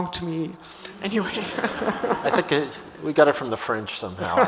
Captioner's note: audience laughs